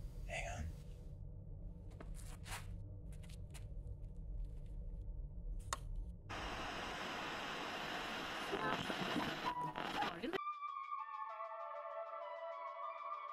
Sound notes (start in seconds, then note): 3.8 radio hissing; 7.0 mellow rhythmic music